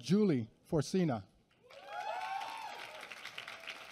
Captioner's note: applause